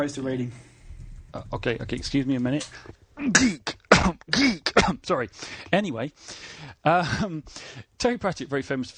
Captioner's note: sneezing